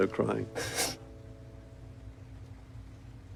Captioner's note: sniffling